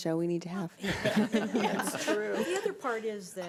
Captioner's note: group laughs